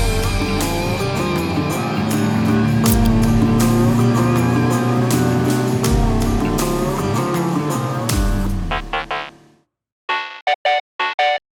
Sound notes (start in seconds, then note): 0.2 upbeat funky music; 2.9 screen flicker